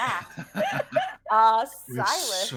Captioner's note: group laughing